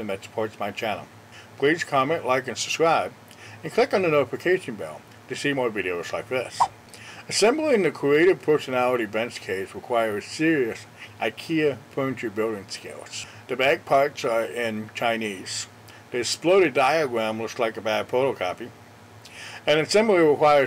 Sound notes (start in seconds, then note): 6.6 swipe Sound